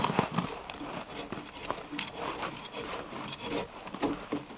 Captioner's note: metal scraping